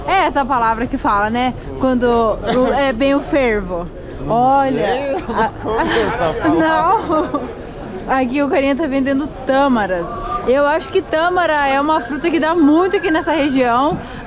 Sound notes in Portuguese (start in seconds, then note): 4.9 rindo; 5.0 Risos